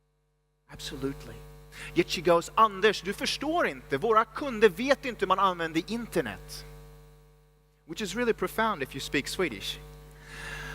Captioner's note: speaks Swedish